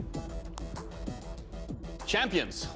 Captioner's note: rock music; knuckles crack